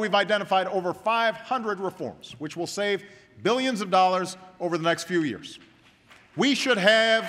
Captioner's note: applause